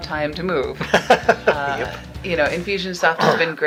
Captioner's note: laughing